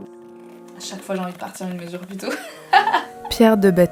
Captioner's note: laughs